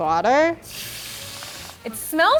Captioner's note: sizzling